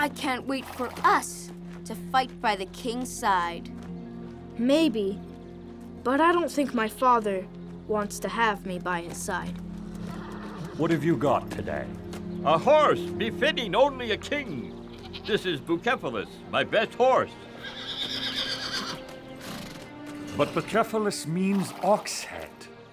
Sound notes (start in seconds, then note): 17.5 Bucephalus whinnying